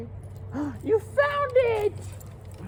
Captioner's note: gasp